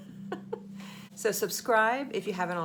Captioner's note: laughing